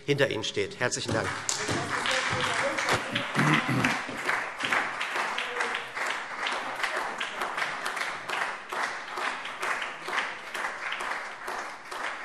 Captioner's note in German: Beifall SPD